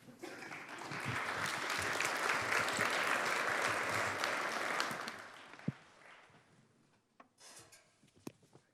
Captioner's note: applause